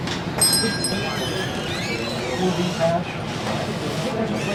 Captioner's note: doorbell rings